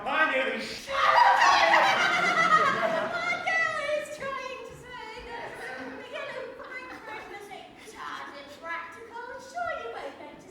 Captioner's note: Glinda laughs loudly